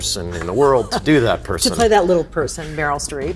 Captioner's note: laughing